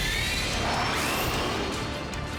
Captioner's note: jets whoosh